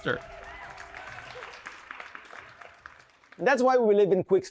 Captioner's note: audience applauding